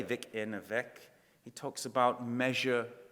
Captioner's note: speaking in foreign language